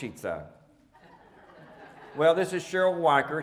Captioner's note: audience laughing